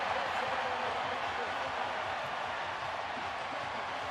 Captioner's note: cheers, applause